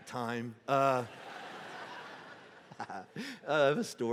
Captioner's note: congregation laughing